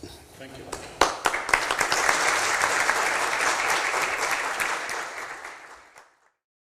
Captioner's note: applause